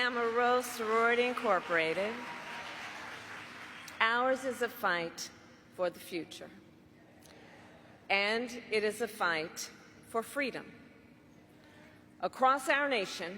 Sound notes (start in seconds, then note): 4.4 applause